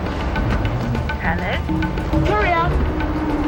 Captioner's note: interkom